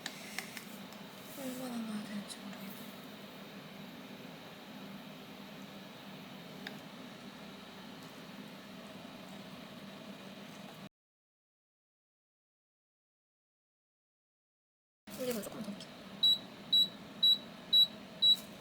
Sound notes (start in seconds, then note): 11.7 muted